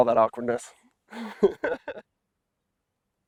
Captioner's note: laugter